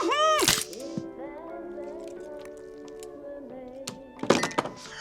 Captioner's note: crunch